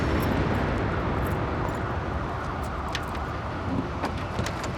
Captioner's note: sirens wailing